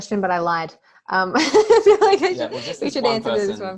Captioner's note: laughter